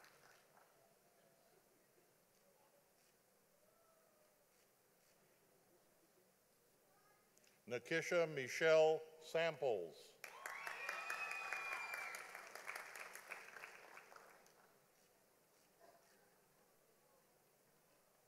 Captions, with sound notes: Natisha Michelle Samples. (audience applauding)